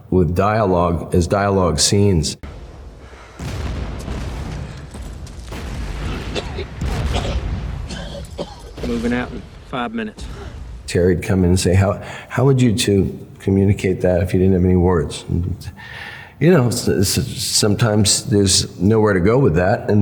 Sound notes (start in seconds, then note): 3.0 bombs exploding; 7.8 man coughing